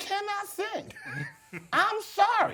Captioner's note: laughs